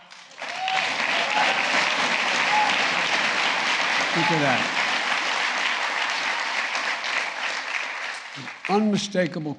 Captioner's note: applause